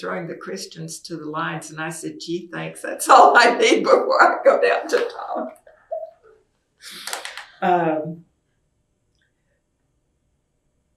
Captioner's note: laughs